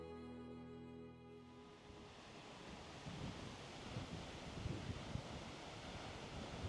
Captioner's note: wind blowing